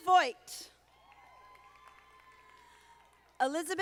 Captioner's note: audience applauding